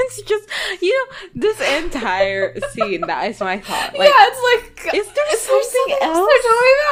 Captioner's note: laughing